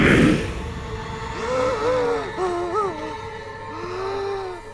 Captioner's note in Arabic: لهث